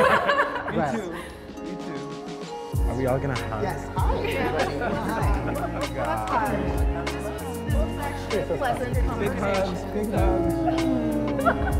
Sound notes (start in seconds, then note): 0.0 participants laughing; 4.8 participants chattering